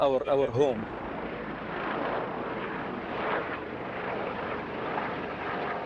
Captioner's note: helicopter blades whirring